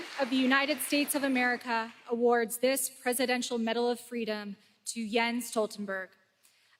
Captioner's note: applause